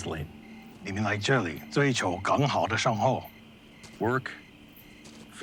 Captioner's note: translator speaking Chinese